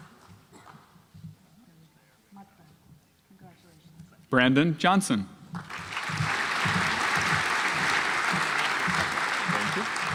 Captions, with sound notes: Brandon Johnson (audience applauds)